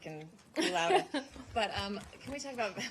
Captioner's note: laughter